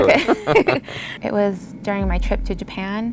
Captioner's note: laughs